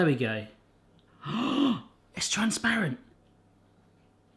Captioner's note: gasps